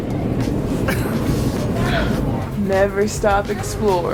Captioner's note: grammy laughing